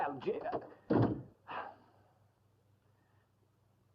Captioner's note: door closes; sigh